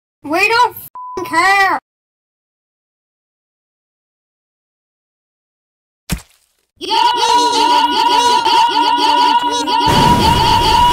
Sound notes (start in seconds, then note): 6.1 blood sounds; 6.8 battle cries; 9.8 battle cries + water